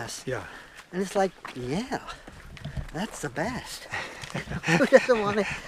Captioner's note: laughs